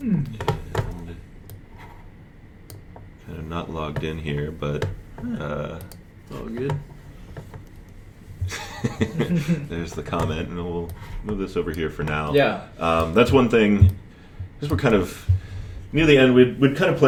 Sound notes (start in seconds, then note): 8.4 laughter